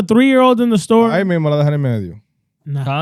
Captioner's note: speaking In Foreign Language